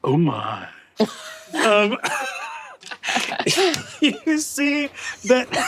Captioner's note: cast laughing